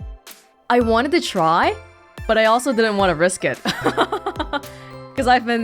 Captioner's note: chuckles